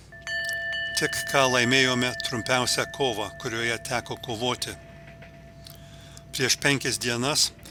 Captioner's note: girgždančio laivo garsai